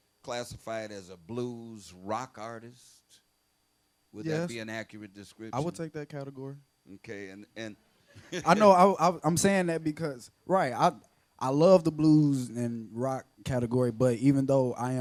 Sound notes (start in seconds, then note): 8.2 laughs